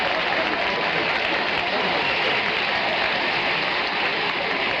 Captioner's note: audience applauding